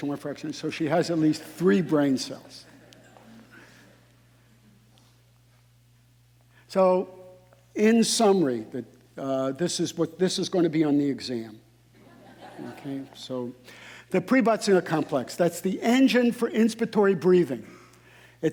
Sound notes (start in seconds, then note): 1.4 audience laughing; 12.0 audience laughing